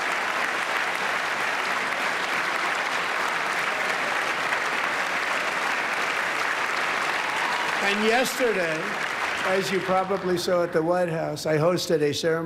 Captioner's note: applause